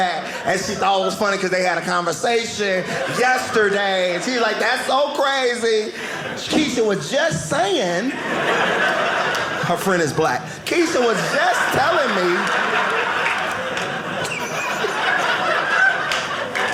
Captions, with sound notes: And she thought it was funny because they had a conversation yesterday. And she's like, "that's so crazy. "Keisha was just saying--" her friend is Black-- "Keisha was just telling me." (audience laughing)